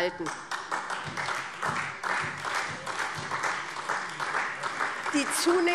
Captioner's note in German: Beifall SPD